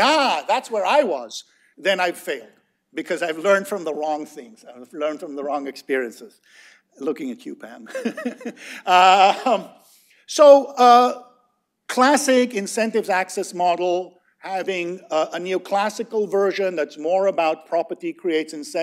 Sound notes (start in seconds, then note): 7.8 laughter